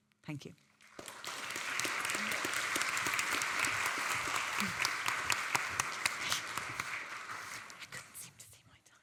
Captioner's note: audience applauding